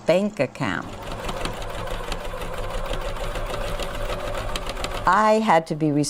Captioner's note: sewing machine thumping